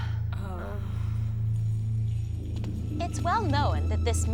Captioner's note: Ellie groans; Salene sighs